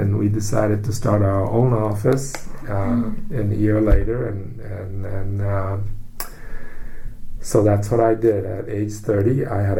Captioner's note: takes breath